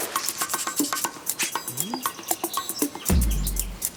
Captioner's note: sniffing